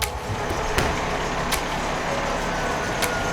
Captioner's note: truck motor rumbling; intense music; siren blaring